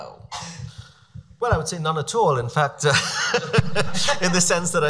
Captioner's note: laughs